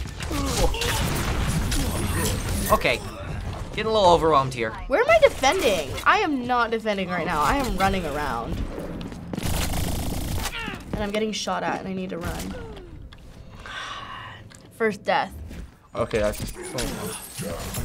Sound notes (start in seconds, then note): 0.2 in game: groaning; 9.4 rapid firing; 12.4 sighs